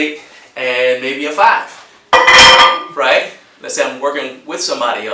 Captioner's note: plate clangs